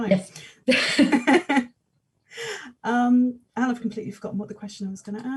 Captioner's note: both laughing